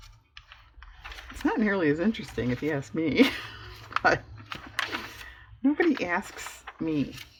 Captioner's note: laughs